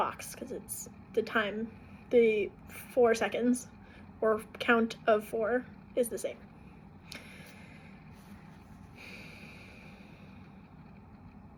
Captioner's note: breathing